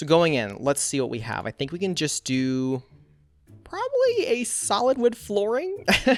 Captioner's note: laughs